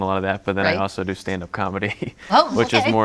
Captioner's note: laughs